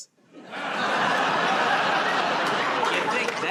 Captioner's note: laughter